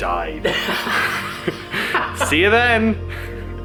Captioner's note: men laughs